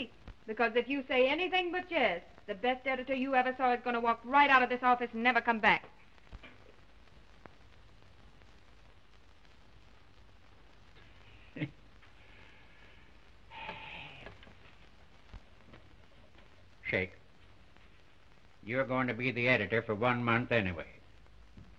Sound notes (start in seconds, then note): 11.5 chuckles; 13.5 sighs